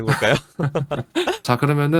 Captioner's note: laughs